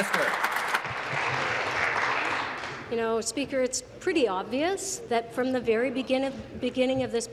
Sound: applause

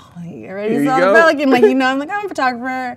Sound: man laughs

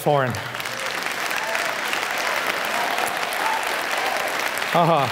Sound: applauds; foreign speaking

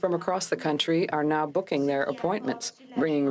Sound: speaking french

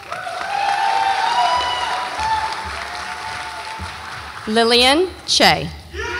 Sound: audience applauds and cheers

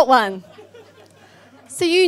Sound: audience laughs

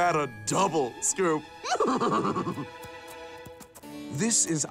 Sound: neigh

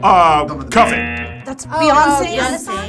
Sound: wrong buzzer rings

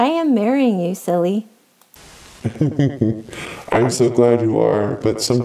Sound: chuckles

